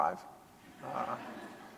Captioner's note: audience laughs